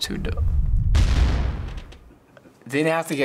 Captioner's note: kaboom!